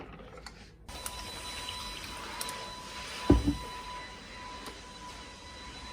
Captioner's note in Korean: 청소기 소리가 들려용